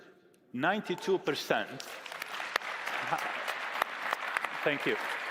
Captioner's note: applause